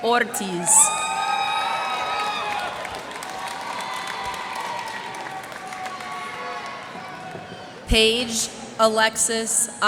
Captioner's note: cheers and applause